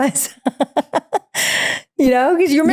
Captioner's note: laughing